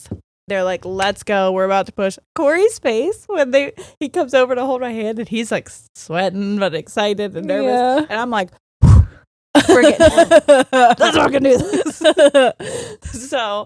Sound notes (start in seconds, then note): 8.8 deep breathing; 9.6 laughing